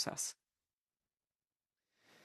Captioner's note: speaking French